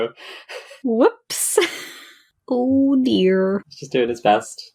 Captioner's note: laughs